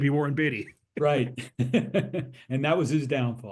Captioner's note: laugh